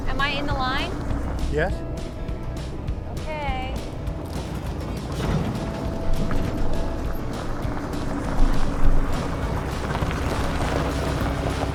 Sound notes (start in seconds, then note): 5.4 car rumbling; 8.9 tire crackling